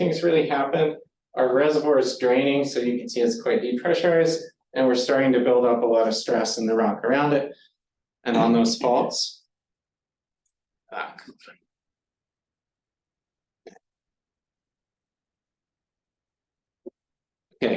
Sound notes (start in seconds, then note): 12.0 silence